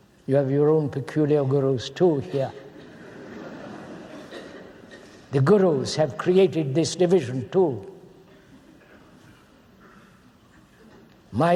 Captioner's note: laughter